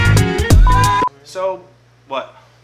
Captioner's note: beep